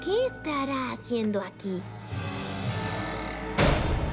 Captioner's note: door creaks and slams